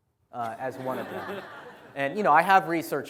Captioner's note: laughter